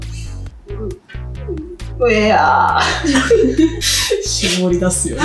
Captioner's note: sobbing?